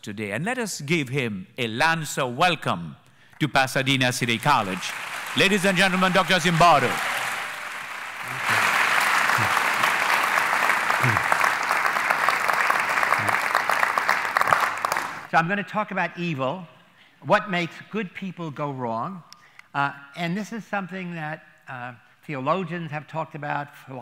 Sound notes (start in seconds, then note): 6.6 applause